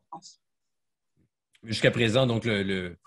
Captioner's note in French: coupure audio